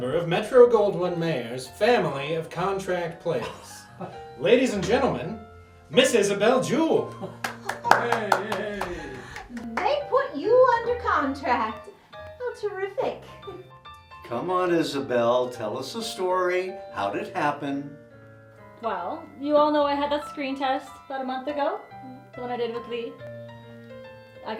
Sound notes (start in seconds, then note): 3.4 man chuckling; 7.0 group applauding